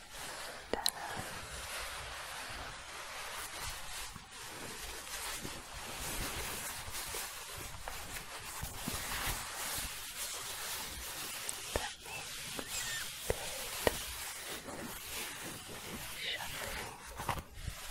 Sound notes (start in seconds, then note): 1.8 rubbing and shuffling; 17.7 scratching